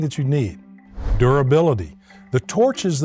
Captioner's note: text whooshing